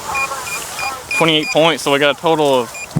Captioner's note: beeping